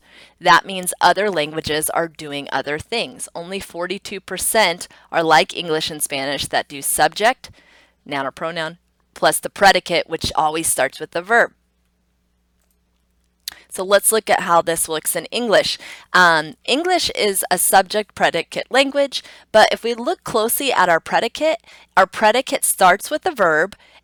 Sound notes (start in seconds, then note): 12.1 computer mouse clicks